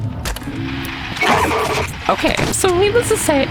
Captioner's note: scream